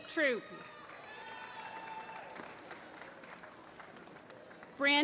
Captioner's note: applause